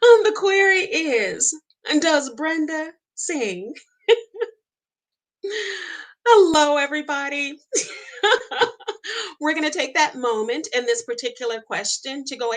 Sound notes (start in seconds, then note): 4.1 laughs; 7.8 laughs